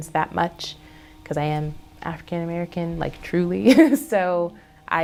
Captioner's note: laughs